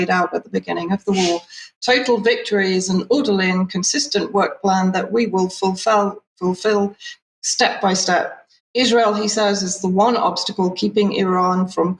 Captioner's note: speaking in Hebrew